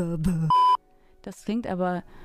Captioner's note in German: piep